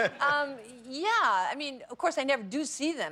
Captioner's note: laughter